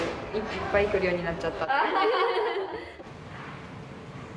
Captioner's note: laughs